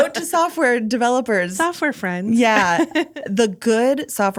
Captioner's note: laughing